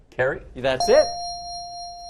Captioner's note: dinging